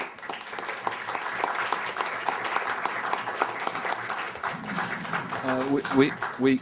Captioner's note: people Clapping